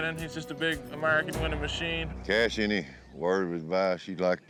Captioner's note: none